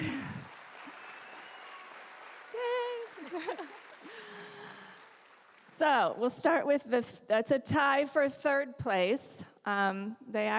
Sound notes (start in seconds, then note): 0.0 applause